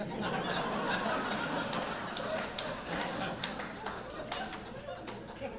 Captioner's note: audience laughing